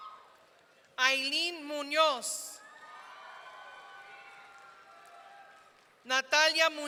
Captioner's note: audience cheering; audience cheering